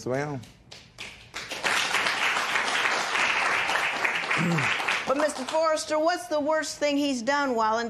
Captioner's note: applause